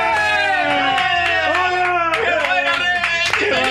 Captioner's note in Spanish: gritan